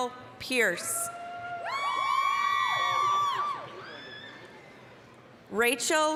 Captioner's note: applause, cheering